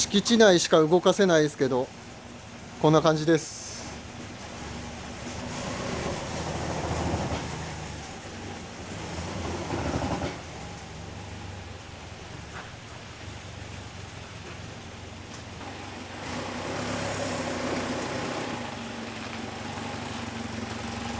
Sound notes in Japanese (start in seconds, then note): 4.3 動作音